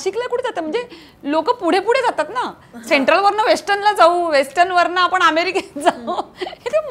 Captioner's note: Chuckles